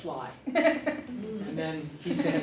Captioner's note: laughter